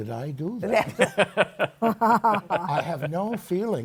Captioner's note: laughs